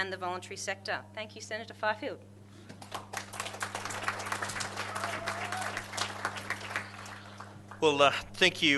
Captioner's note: audience applauds